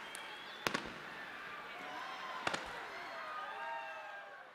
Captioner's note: fireworks popping